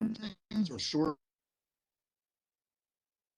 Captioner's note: audio cuts out